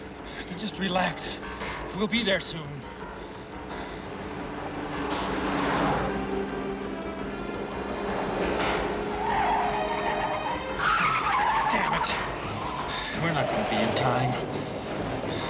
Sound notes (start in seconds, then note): 9.2 tires Squealing